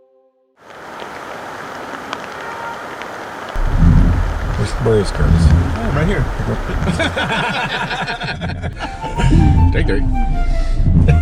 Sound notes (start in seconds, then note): 6.8 laughing